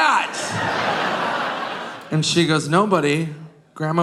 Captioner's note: audience laughing